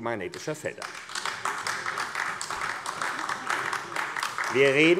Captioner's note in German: Beifall AfD